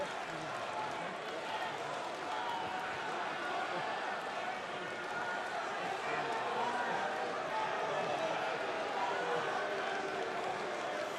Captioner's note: crowd chatter